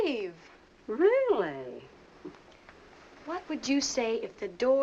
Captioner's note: scoffs